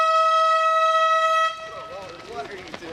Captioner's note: crowd noise